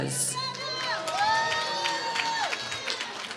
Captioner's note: applause